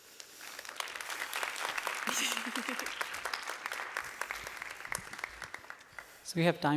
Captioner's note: applause